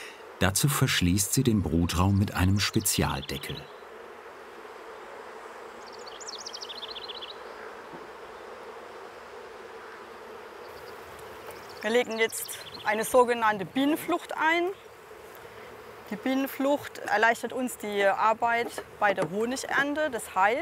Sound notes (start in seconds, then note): 4.3 humming, birds chirping